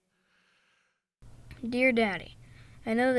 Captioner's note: Elvis Voiceover